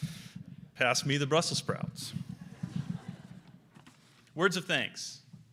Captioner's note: audience laughs